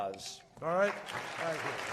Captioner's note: applause